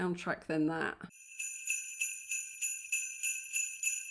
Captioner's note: sleigh bells